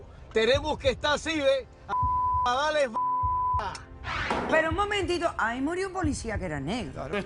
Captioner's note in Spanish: Bip